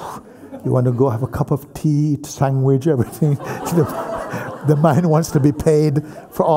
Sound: laughter

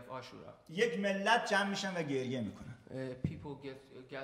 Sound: speaking in farsi

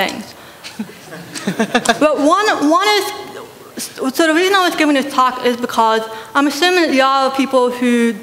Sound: laughter

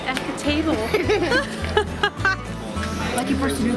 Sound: laughing

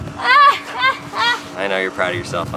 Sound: laughs

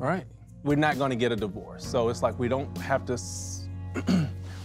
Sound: clears throat

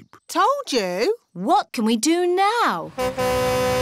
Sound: horn honks

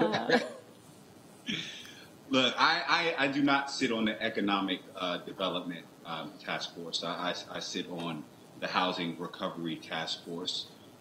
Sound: laughter

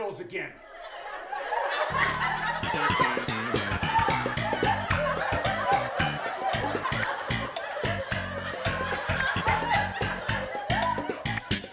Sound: wild audience laughter feat. funny 90s bass line

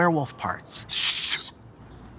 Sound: both shushing

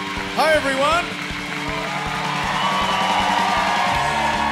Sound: cheering and applause

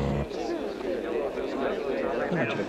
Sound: crowd chattering

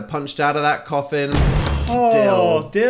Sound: dramatic boom rumbles

